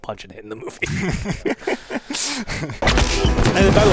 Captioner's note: laughs